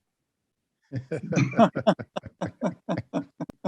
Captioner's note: laughs